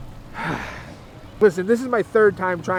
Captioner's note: sighs